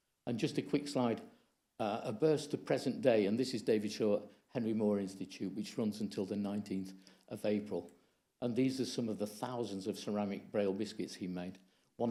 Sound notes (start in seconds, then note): none